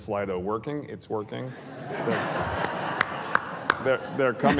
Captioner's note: audience laughing